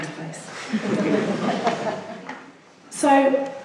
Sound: laughing

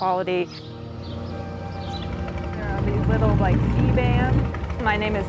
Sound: boat engine revving

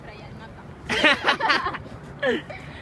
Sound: laughs

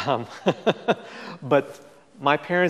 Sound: laughs

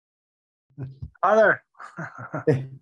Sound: laughs

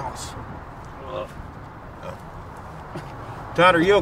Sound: Todd groans

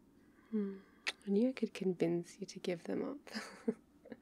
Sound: kiss

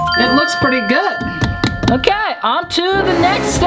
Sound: beep; thud

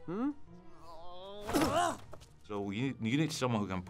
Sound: Alva grunts

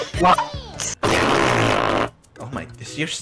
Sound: mouth fart

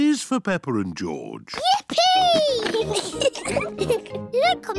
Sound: giggles

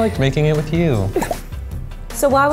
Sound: laughter

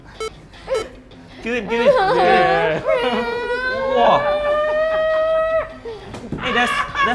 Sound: cry with ragretz

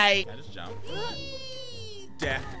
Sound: Ellie grunting

